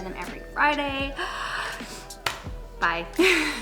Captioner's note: gasps